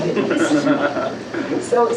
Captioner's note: laughter